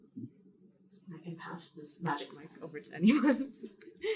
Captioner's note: chuckles